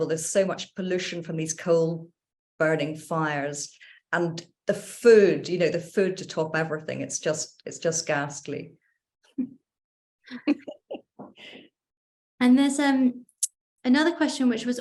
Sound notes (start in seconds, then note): 10.3 laughs